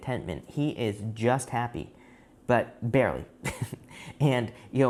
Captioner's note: chuckles